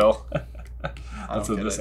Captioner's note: chuckling